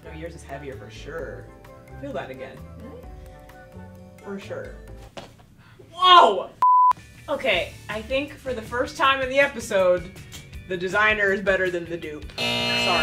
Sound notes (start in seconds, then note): 6.6 beep; 12.4 buzzer sounds